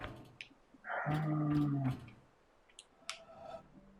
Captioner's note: sighs